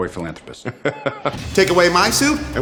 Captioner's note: laughs